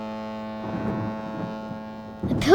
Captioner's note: thunder